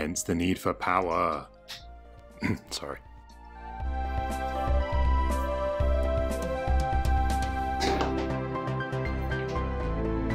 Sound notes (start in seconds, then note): 2.4 ahem